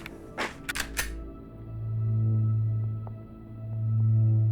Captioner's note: gun cocking